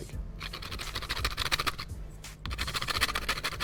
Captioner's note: nutmeg grating